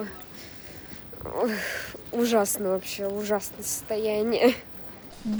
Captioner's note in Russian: вздох